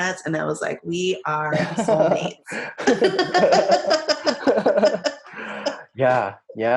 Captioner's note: laughing